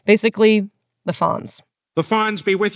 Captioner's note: soundbite of tv show, "family guy"